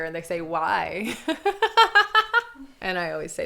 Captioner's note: laughs